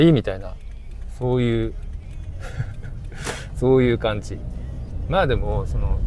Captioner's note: laughs